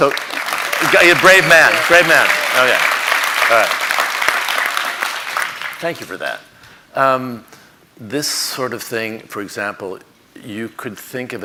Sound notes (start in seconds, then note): 0.0 audience applauding